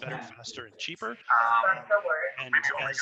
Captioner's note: chatter in the background